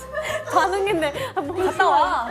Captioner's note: haha